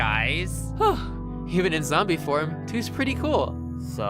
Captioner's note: sigh of relief